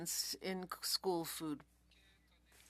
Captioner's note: speaking French